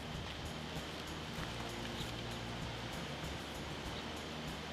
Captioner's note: birds chirping